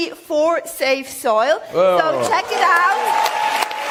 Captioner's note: cheering/Applause